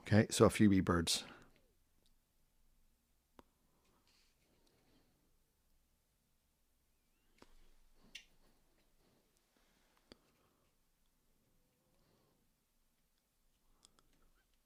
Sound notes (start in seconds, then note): 1.2 silence